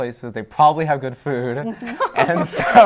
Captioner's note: laughter